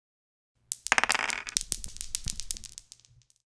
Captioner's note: dice rolling